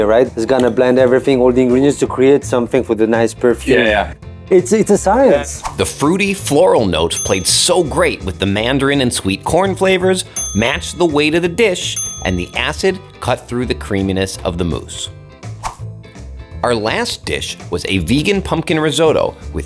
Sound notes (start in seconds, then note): 7.1 bell ringing